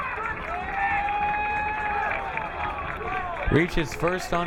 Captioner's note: crowd cheering